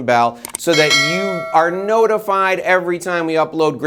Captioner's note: bell rings